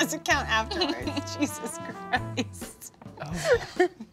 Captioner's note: laughing